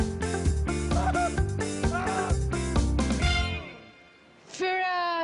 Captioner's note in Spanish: Lucas grita